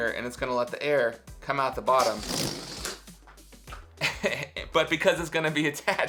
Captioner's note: laughing